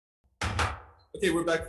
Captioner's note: gavel bangs